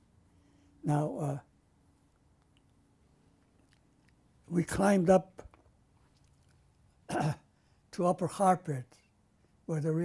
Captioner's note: non-english; pauses for 3 seconds